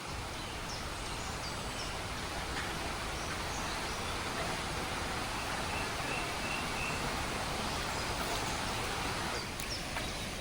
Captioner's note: sounds of a gentle river flowing